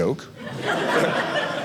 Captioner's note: audience laughing